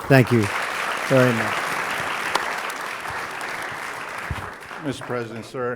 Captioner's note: applause